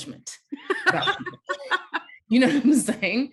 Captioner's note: laughing